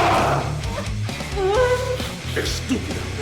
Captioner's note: Dark Shadow yells out; Suzette’s back again hits the lockers loudly; Spanish